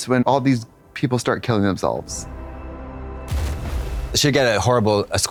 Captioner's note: splashing water